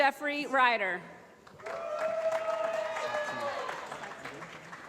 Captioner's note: applause